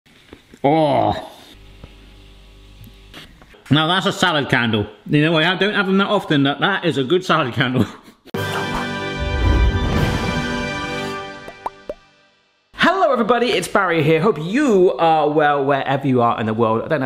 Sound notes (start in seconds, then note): 0.2 groaning; 8.3 upbeat music; 11.4 logos popping